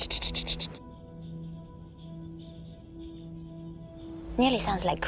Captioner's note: bird warbles; trills